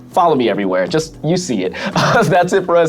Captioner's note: laughs